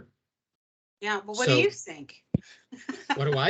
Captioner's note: laughing